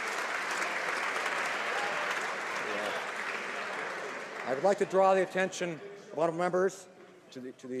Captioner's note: applause